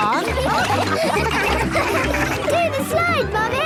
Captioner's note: all laughing